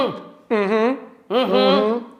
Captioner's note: students humming; humming; students humming